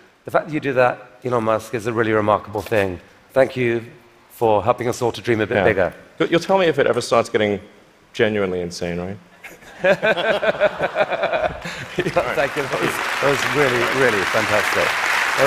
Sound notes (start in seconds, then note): 9.4 laughter